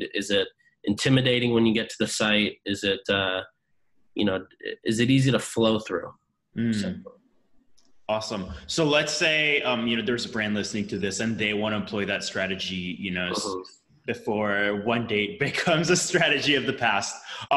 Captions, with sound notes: Is it intimidating when you get to the site? Is it easy to flow through? - (hums) Awesome, so let's say there's a brand listening to this and they want to employ that strategy before one day it (laughs) becomes a strategy of the past.